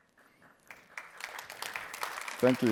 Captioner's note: applause